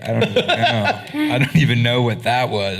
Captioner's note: laughing